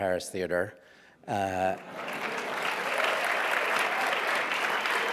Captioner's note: applause